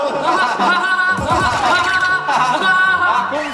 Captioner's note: hahahaha